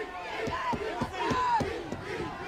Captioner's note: crowd chatter